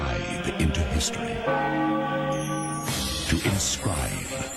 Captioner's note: church bell rings